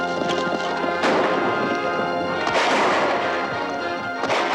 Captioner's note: guns firing